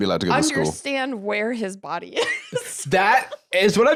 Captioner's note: laughs